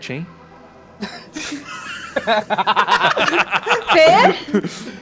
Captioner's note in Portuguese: risada